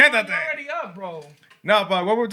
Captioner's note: non-english Speech